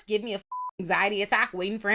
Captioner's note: beep